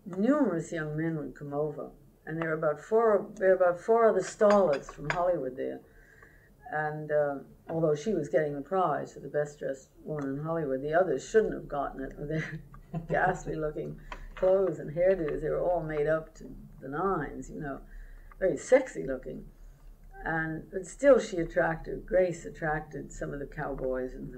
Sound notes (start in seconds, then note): 12.9 laughter